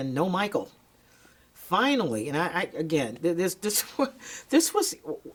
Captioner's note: chuckles